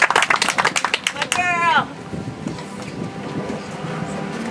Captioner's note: audience applauds